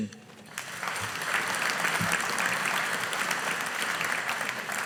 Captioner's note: audience applauding